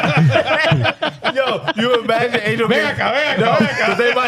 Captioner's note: laughing